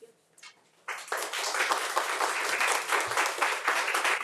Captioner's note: audience claps